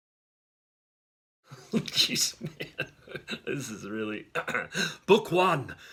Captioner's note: laughing